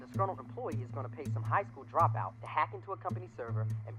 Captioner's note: voiceover